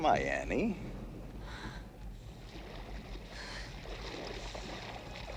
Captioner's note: Annie panting; water splashing